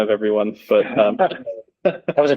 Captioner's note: laughter